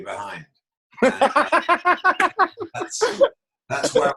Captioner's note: laughs